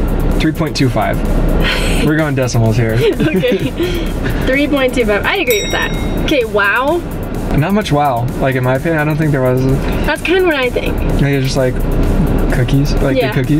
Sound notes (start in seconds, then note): 2.9 laughing